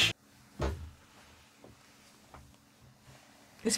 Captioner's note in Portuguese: Silêncio